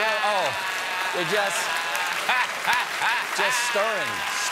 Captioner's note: laughter